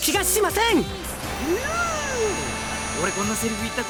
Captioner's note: impressed whistle